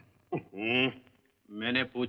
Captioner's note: grunts